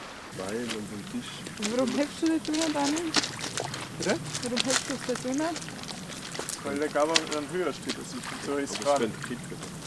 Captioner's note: muttering and rambling